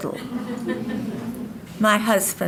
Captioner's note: audience laughing